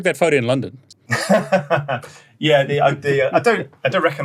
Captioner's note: laughs